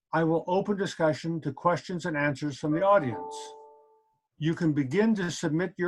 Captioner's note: computer sound